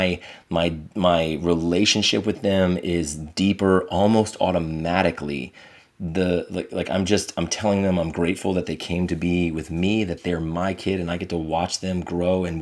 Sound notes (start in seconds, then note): none